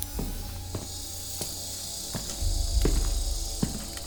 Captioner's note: footsteps